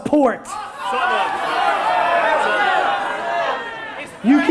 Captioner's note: audience yelling